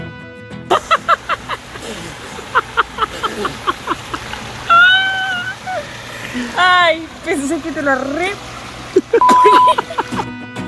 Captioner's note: laughs